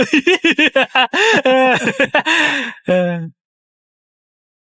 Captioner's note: laughs